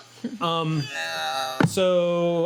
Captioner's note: grunting